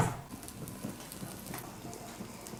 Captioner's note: food burning